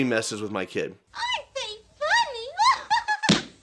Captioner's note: high pitched laugh